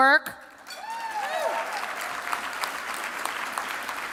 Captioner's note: applause